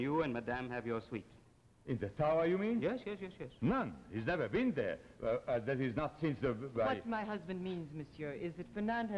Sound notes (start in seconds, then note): 3.6 Charles' voice